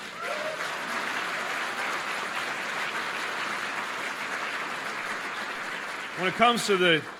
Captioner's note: applause